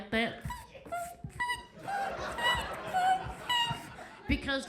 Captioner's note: Sarah imitates shoe squeaking